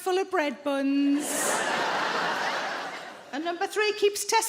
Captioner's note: audience laughing